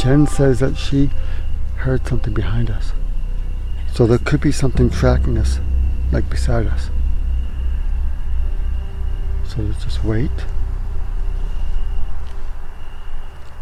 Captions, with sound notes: - Jen says that she heard something behind us. So, there could be something tracking us, like beside us. (crickets chirping) (eerie music) So let's just wait.